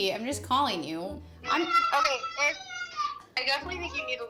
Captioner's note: child screams through the phone